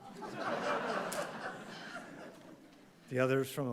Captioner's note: audience laughing